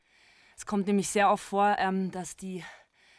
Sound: speaking in foreign language

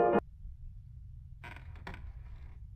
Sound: wood creaking

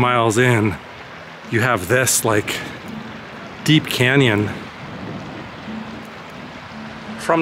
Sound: water rushing

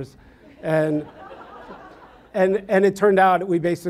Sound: audience laughs

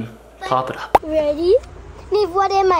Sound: popping sound effect

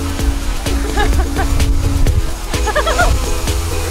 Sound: laughter

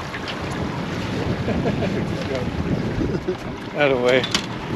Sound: chuckling

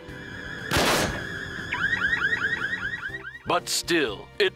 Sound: alarm beeps

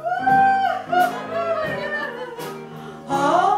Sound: laughing; crying

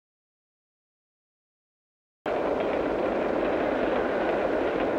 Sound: train tracks

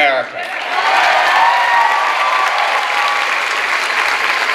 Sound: clapping and cheering

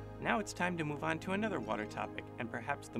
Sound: voiceover

